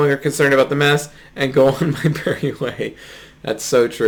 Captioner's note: laughs